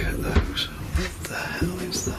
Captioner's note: furniture dragging